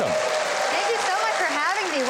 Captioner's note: audience applauding